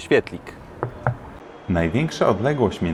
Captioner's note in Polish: stuk, stuk